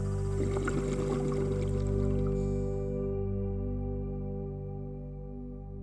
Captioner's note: underwater bubbles